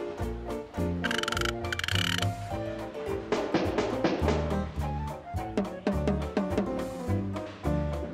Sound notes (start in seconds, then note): 1.0 joints creaking